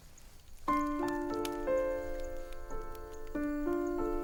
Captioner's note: fire cracks; slow piano music